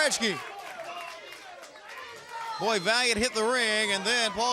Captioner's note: crowd chatter